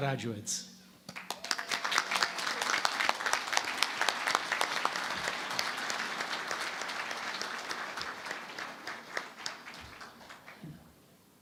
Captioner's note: applause